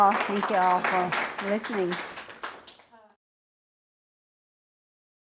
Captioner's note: audience applauds